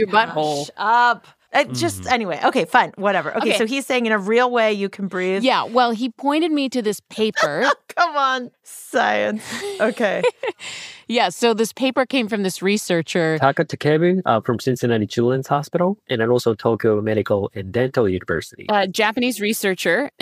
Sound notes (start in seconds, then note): 7.2 laughs; 9.4 laughs